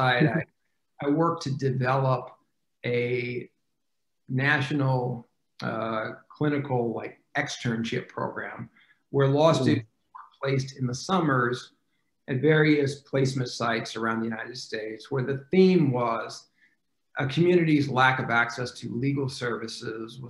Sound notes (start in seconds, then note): 9.7 faintly speaking